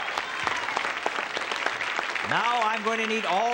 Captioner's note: applause